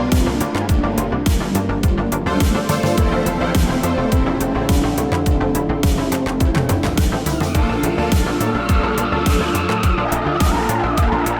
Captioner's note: engine revving